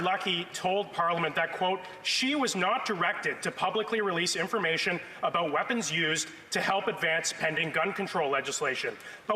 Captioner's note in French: voix de l'interprète